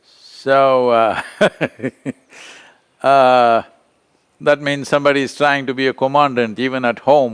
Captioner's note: laughs